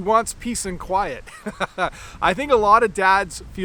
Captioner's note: laughs